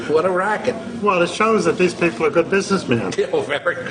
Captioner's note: laughs